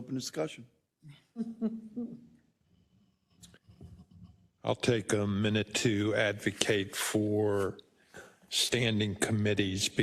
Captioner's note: laugh